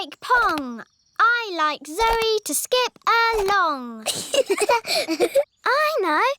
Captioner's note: both laugh